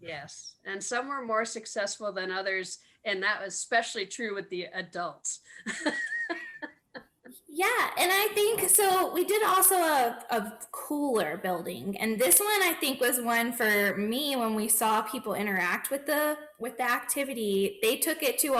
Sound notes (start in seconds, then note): 5.6 laughs